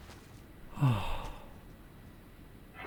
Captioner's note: sighs